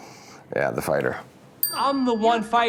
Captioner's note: bell rings